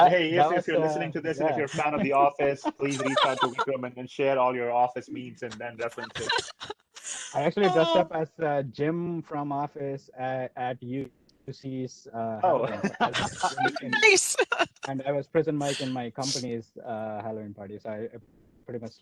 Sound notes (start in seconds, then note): 6.3 laughter; 12.1 laughs